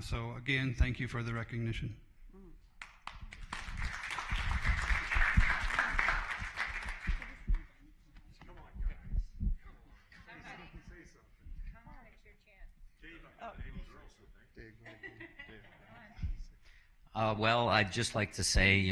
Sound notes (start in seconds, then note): 8.3 applause